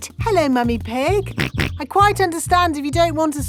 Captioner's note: snorts